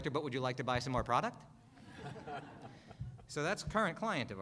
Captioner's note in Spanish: Risas